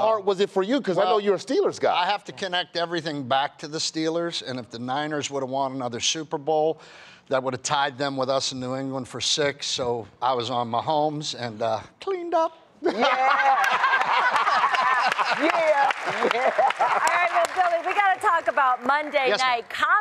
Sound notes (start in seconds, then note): 12.8 laughter; 16.3 applause